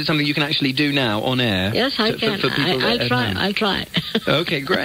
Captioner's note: soft chuckle